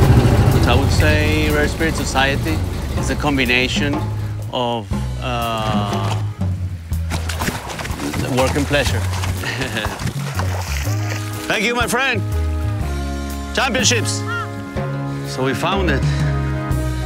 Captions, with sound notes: (boat groaning) I would say Rare Spirits Society is a combination of, ahhh, work and pleasure. (chuckles) (water clattering) Thank you, my friend. Championships. So we found it,